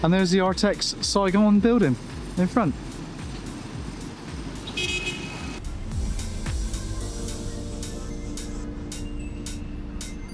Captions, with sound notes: and there's the Artex Saigon building in front. (car honks) (upbeat music)